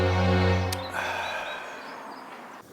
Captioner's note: exhale slowly